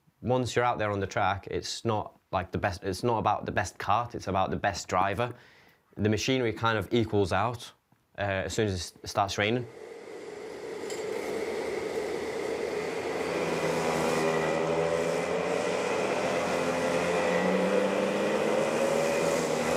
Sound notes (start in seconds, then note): 14.9 engines rumbling